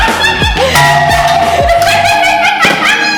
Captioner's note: loud bang